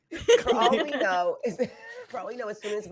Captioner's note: all laughing